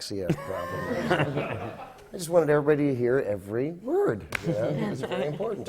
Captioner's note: laughter